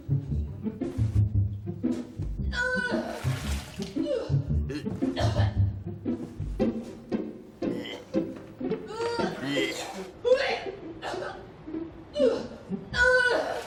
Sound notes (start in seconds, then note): 2.3 vomiting